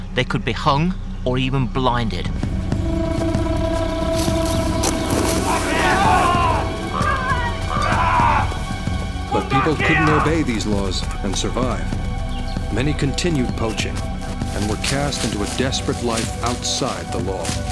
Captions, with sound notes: the could be hung, or even blinded. (men shouting) - Come back here! - The people couldn't obey these laws and survive. Many continued poaching and were cast into a desperate life outside the law.